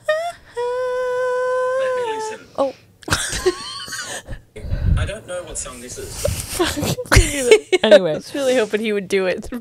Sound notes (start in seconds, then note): 3.1 panel laughing